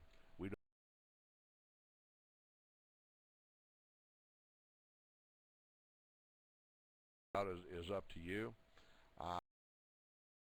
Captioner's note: audio drops